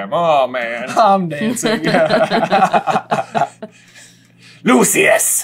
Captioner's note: laughter